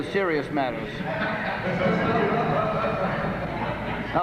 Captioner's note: laughter